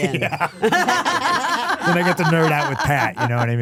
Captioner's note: laughing